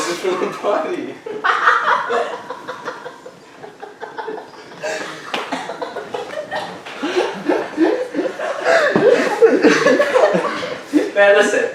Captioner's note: everybody laughing